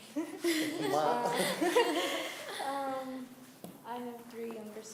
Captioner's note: laughter